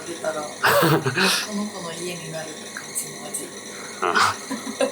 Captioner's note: laughs